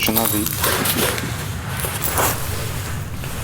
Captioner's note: noise of broken glass